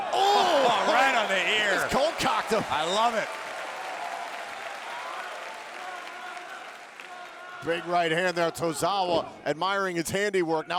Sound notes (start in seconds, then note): 4.1 audience applauding